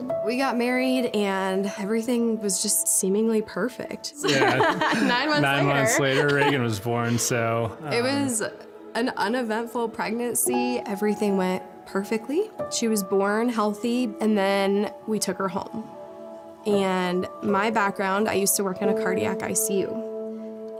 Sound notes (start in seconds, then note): 4.2 laughing